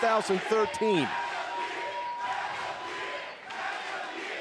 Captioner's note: crowd chanting